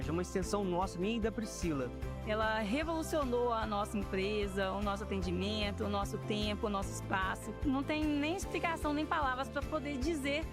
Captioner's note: speaking another language